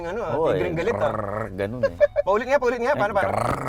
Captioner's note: imitating car noise